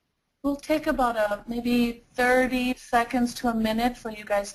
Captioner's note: voiceover